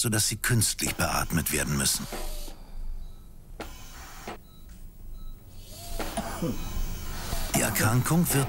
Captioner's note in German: Patient hustet